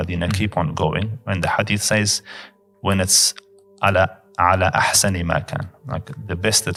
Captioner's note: Arabic